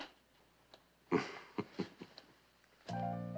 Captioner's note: kıkırdama